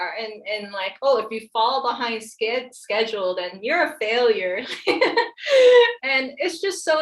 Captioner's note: laughs